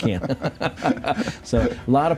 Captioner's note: laughing